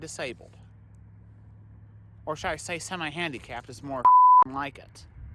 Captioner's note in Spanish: pitido